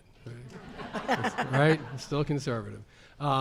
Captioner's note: audience laughs